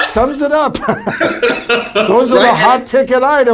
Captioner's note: both laughing